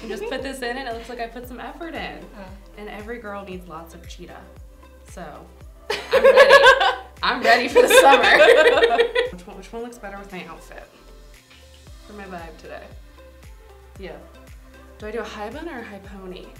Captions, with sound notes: this in, and it looks like I put some effort it. And every girl needs lots of cheetah. So... >> [ Laughs ] >> I'm ready. I'm ready for the summer. [ Both laugh ] >> Which one looks better with my outfit. For my vibe today. Yeah. Do I do a high bun or a high pony?